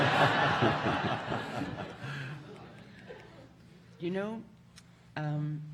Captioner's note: audience laughing